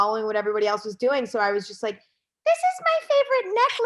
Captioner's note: in a high-pitched voice